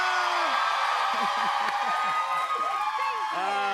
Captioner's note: cheers and applause